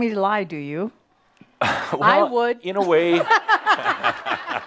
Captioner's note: lots of laughter